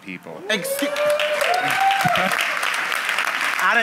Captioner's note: applause